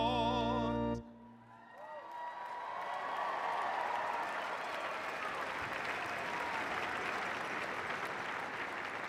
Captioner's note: cheers and applause